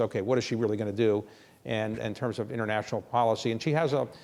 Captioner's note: none